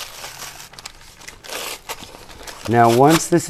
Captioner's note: cardboard rips slowly